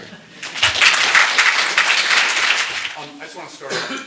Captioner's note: applause